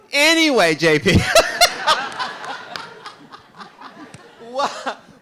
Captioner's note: RuPaul laughs